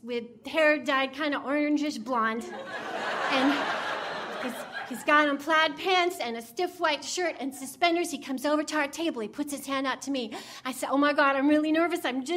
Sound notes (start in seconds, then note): 2.5 audience laughing